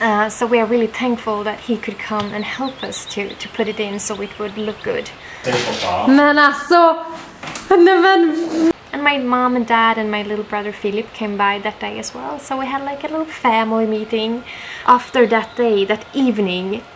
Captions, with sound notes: So we are really thankful that he could come and help us to put it in so it will look good. [Speaking in Swedish] And my mom and dad, and my little brother, Filip. Came up that day as well, so we had like a little family meeting. After that day, that evening.